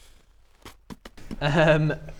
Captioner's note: pfft